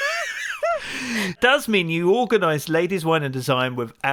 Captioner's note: laughs